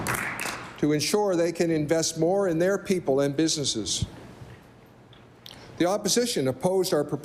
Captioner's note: applause